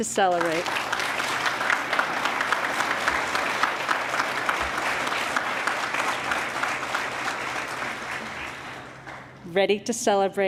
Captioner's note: applause